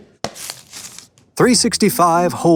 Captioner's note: wrapper tears